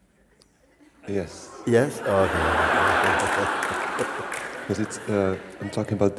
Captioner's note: laughter